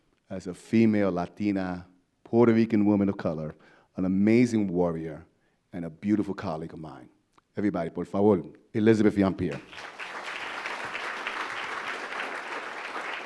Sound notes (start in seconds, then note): 8.0 speaks foreign language; 9.5 audience applause